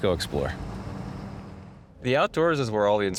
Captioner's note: vehicle rumbling